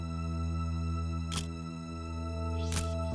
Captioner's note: camera shutter click